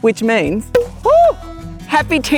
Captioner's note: cork pop